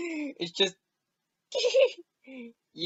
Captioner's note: giggles